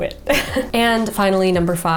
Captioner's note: chuckles